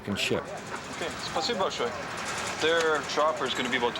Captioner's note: speaking Russian